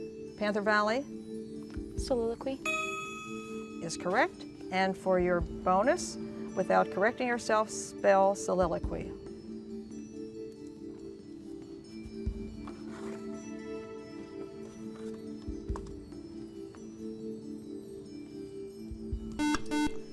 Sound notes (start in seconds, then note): 2.6 ding; 9.3 ethereal music; 19.4 buzzer